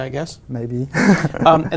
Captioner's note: laugh